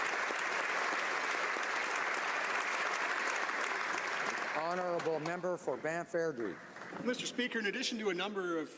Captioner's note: applause